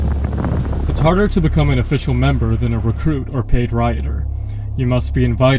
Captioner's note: voiceover